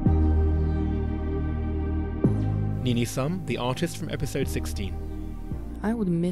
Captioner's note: voiceover